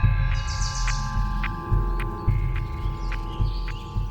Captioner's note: birds chirping